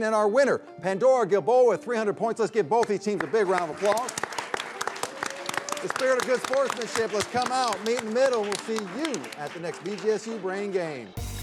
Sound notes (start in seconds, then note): 4.3 crowd claps; 11.2 upbeat music